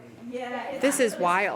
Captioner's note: background chatter